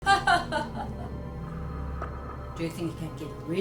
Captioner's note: Zilia laughing